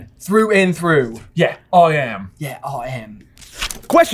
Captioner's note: accented